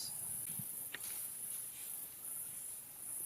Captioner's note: noises like twigs crackling